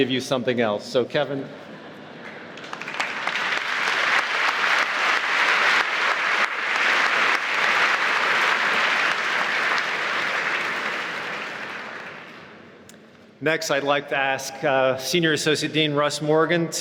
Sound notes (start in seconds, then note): 2.9 applause